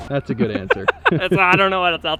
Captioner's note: laughs